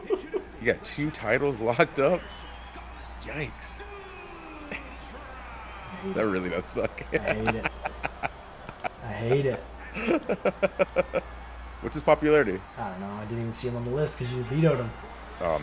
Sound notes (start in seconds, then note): 1.1 laugh; 6.8 laugh